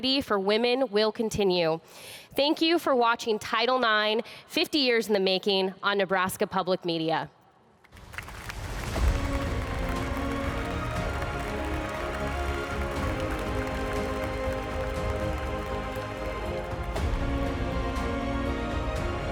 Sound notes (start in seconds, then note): 10.3 applause; 15.2 inspiring music